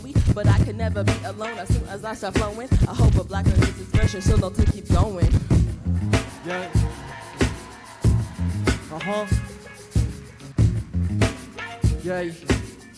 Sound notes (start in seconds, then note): 3.5 loud beat playing; 5.5 audience cheering